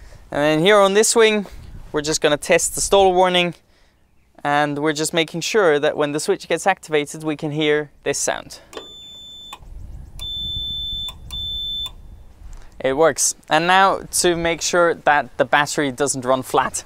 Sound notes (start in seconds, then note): 10.1 beeping; 10.1 beeping continues